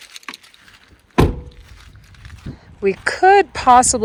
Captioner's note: door clattering